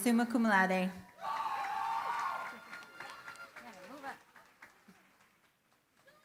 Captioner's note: cheering, applause